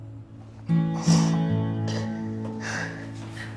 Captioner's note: June crying